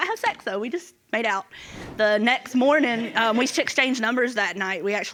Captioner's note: audience laughing